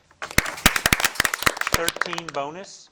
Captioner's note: audience applauding